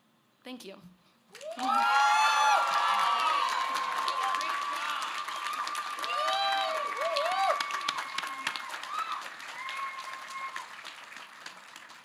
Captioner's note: cheers